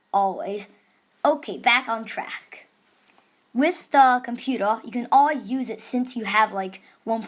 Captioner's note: static